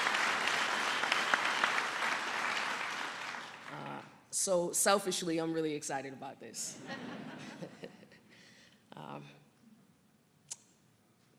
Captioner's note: applause